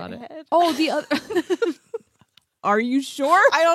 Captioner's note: laughs